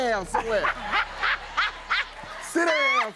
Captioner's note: laughter